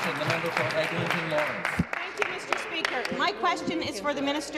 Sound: applause

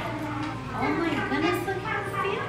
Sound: classroom chatter

